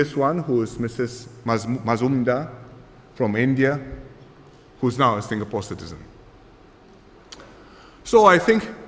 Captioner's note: none